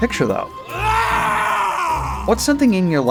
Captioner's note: screaming